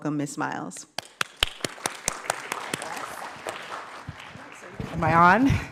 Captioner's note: applause